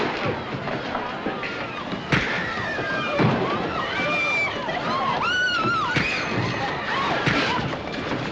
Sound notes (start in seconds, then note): 2.3 women screaming